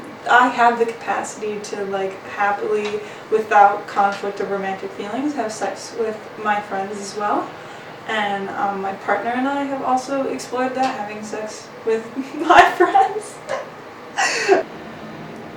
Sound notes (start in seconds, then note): 14.2 laughs